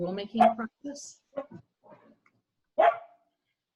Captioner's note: dog barking